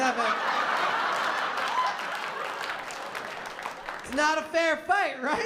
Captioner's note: laughter